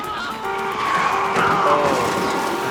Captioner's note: man yelling